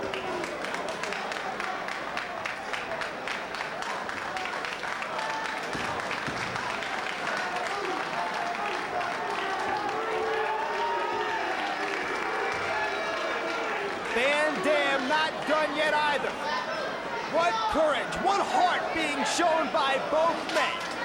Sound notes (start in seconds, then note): 0.1 spectators applauding; 9.7 spectators cheering